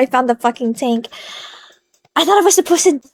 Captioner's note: inhale